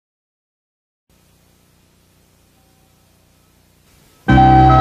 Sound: TV static; early 80s synthesizer music playing

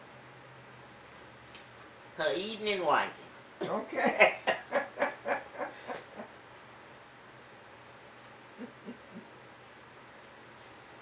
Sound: laughter

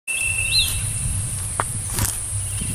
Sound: footsteps

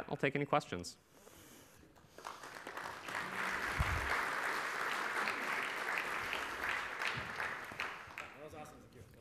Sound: applause

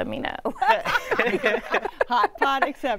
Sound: laughter

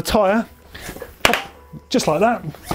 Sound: pop

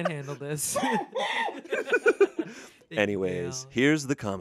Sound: everyone laughs

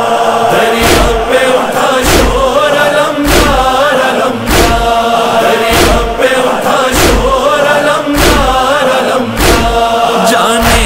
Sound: chanting

